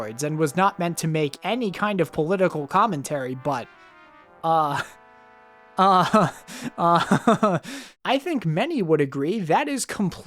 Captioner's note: laughs